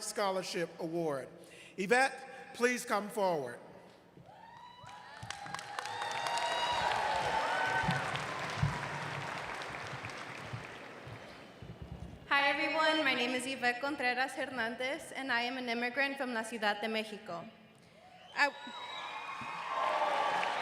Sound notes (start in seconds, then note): 8.1 cheers and applause